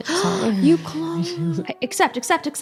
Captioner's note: gasps